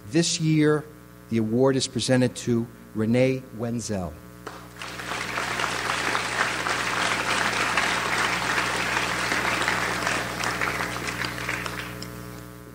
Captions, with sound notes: This year, the award is presented to Renee Wenzel. (audience applauds)